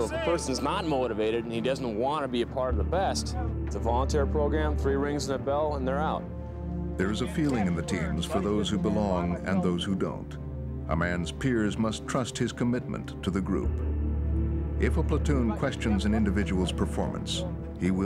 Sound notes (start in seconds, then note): 7.3 voiceover